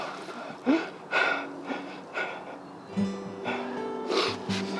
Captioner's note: sobs